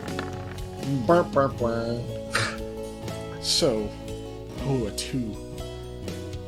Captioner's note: disappointed noises